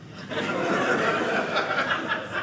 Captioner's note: audience laughing